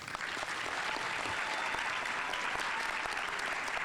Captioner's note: audience applauding